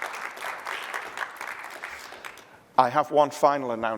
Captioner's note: applause